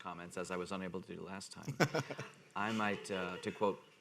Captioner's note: man laughing